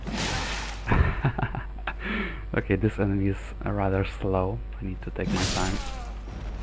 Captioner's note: chuckles